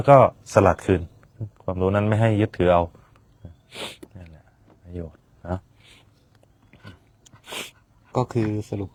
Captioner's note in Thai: เสียงสูดหายใจ